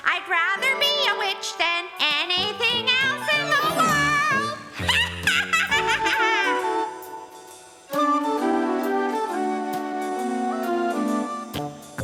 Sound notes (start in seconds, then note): 5.6 cackling; 7.4 playful music